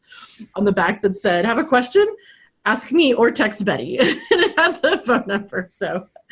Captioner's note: laughs